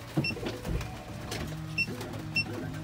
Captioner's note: beep